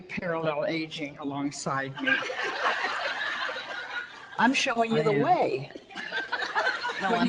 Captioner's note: audience laughter